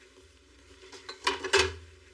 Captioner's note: dishes clackiking